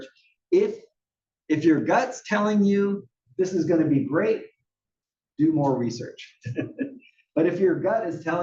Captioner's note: laugh